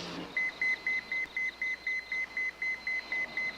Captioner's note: pager beeping